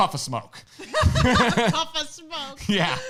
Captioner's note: laughing